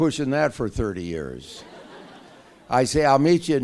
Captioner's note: laughter